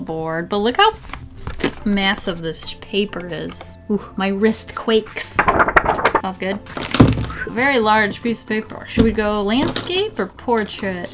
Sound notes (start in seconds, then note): 5.2 paper wobbling